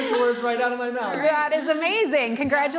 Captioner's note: laughing